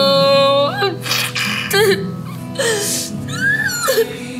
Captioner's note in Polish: płacz